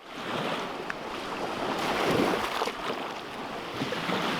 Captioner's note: waves crashing